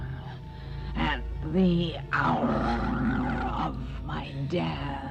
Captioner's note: Katherine breathes uneasily